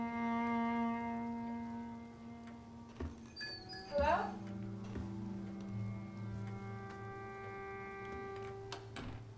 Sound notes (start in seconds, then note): 0.9 somber music continues; 3.5 bells jingle